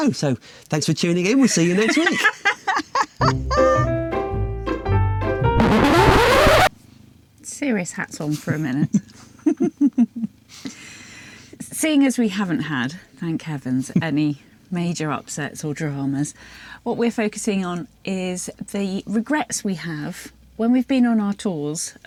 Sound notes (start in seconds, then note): 7.5 record rips